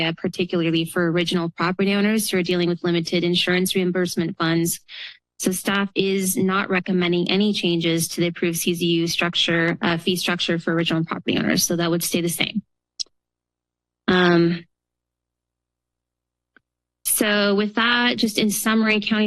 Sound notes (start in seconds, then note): 14.1 pause